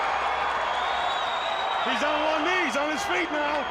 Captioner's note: crowd cheering